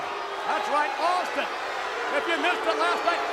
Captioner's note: audience jeers